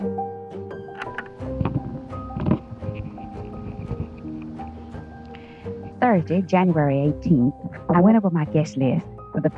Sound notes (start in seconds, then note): 0.8 tape recorder clicking